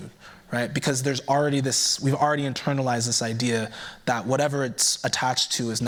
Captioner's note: none